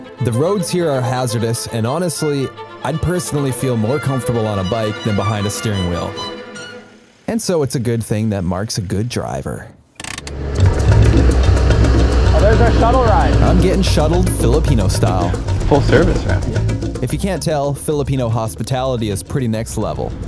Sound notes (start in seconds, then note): 10.0 parking Brake Clicks